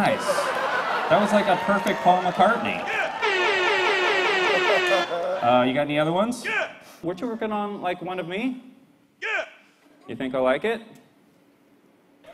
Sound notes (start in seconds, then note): 3.3 laser sounds